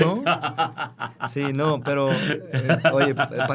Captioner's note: laughter